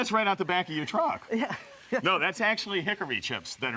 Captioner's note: laughs